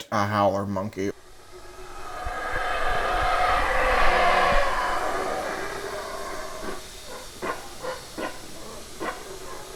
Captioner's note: howler monkey screeching and wailing